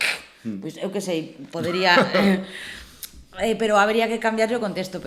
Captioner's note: laughs